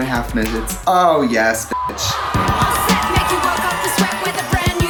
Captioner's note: beep